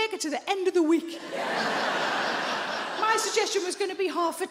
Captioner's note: audience laughing